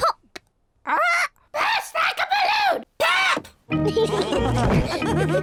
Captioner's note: all laugh; tinkling music playing